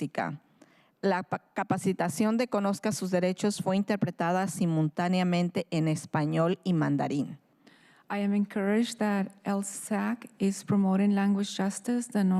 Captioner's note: speaking in spanish